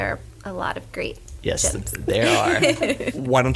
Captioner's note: laughs